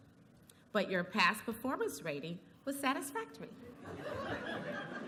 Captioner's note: laughter